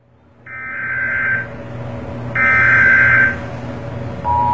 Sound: alarm blares

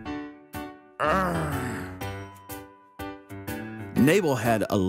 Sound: Nabal growls

